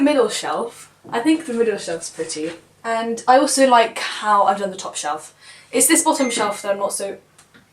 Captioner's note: phone dings